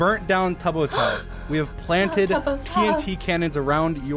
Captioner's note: gasps